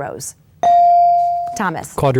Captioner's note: bell dings